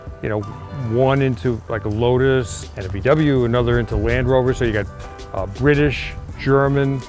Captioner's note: none